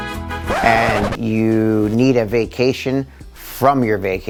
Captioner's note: disc screeching